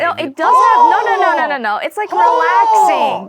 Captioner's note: infuriating seagull impressions